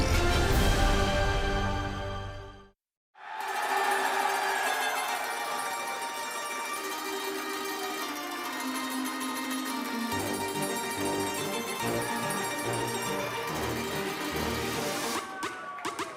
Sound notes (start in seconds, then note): 4.1 cheers & applause